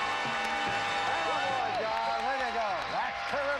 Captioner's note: audience applauding